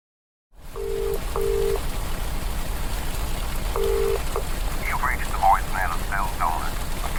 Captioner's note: heavy rain. Phone dialling